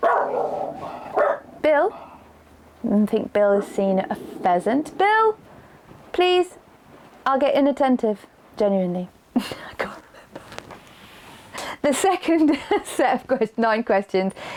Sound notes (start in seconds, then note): 9.0 laughing